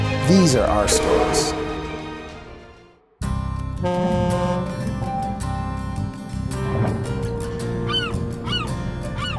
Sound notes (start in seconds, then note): 3.6 boat horn honking; 5.2 light upbeat music